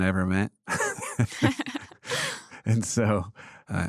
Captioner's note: laughs